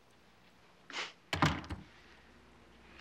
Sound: door opens; scoffs; door closes

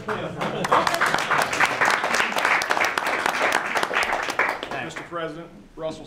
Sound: applause

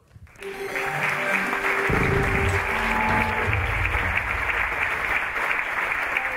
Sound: audience applauding; upbeat music

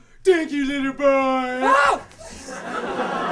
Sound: Neville screams

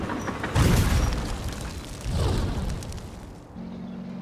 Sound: fire crackling; anti-tank mine exploding; tank rumbling

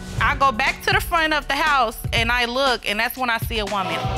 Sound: audience exclaims

